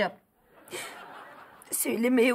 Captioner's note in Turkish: Gülme efekti